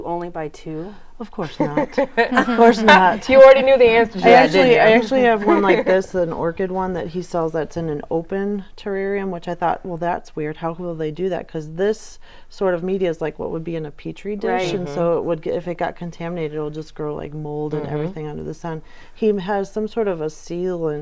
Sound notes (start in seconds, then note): 4.8 laughing